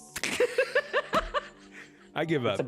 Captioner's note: laughing